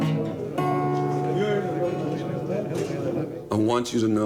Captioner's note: men chattering in foreign language